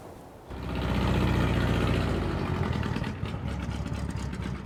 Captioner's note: engine revving